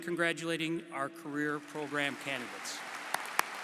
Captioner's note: applause